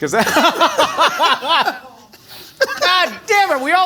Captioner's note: they laugh